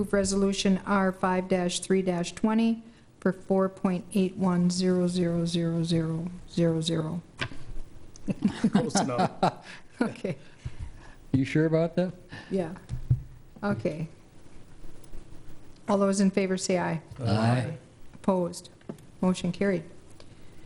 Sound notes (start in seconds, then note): 8.2 laughing